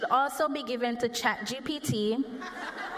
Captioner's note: laughter